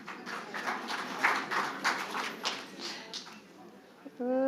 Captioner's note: audience applauding